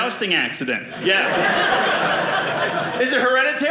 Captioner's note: audience laughing